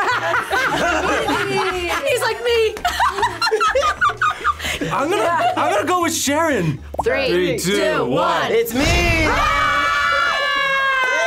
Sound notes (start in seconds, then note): 0.3 laughs; 2.8 both laugh; 9.0 group screams